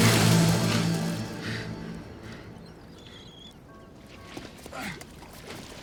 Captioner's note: Rick breathing heavily